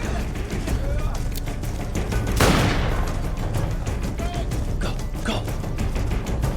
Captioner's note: gunshots